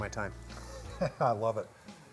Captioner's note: laughs